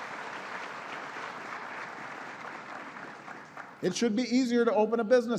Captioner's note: applause